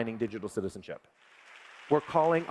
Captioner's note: applause